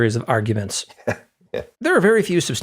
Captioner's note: laugh